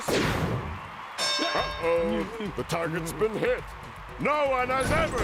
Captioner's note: bell dings